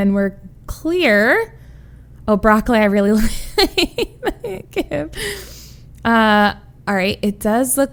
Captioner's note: laughs